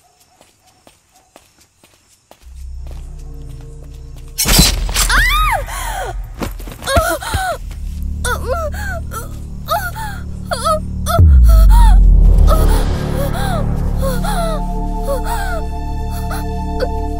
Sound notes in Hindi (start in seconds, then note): 5.0 दर्द से चिल्लाता है; 6.7 कराहना